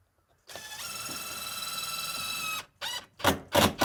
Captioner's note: drill whirring